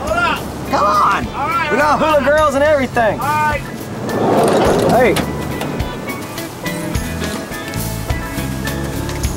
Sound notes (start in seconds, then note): 3.2 door slides open; 6.0 island music continues